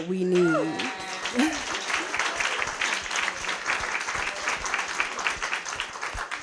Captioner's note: applause